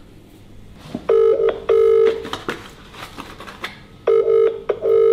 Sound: phone ringing

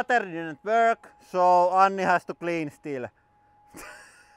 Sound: laughs

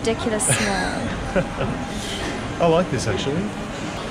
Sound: laughs

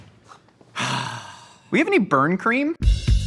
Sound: sighs

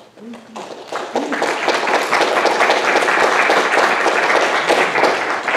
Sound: audience applauding

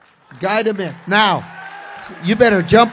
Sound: congregation cheers

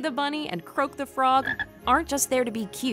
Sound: Croak croaks

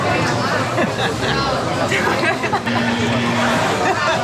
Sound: all laugh, buzzer sound

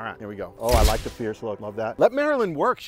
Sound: shutter snaps

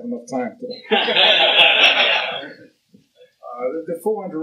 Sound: laughter

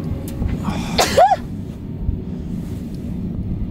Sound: sneezes

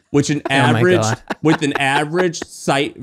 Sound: laughing

